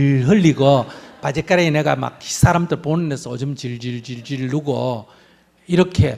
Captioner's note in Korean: 청중 웃음